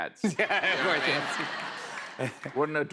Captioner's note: laughter